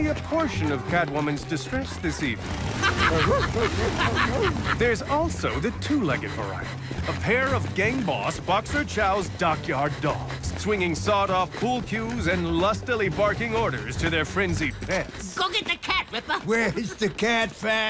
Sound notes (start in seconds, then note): 2.3 dogs barking; 2.6 laughter